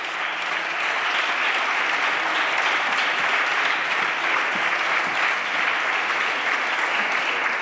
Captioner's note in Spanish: Aplausos